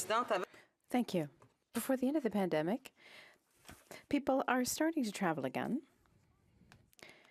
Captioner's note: speaking French